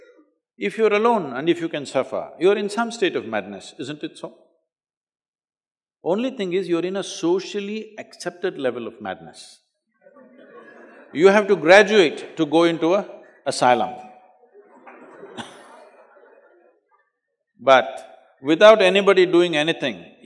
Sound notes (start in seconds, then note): 10.0 laughter; 14.4 laugh